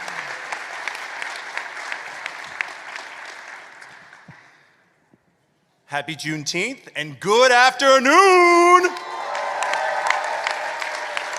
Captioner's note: applause